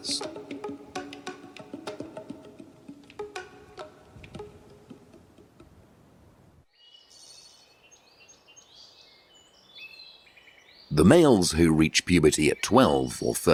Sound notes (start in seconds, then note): 0.0 soft music; 6.7 birds chirping